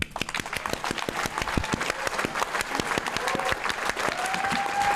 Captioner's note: applause